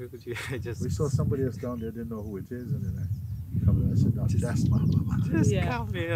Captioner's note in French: rires